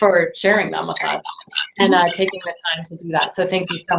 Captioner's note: feedback